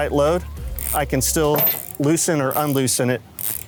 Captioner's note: ratchet rattles